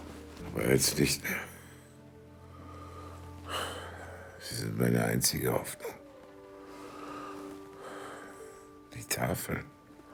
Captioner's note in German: seufzt